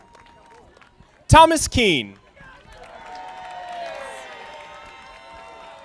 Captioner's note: audience applauding; audience applauding